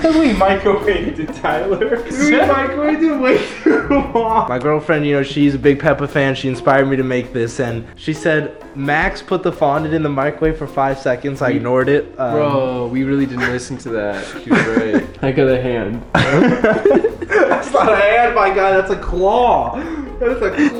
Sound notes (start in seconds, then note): 16.0 chuckles